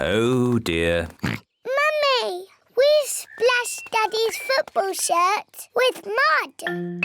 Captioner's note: oinks